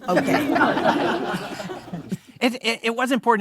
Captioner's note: audience laughing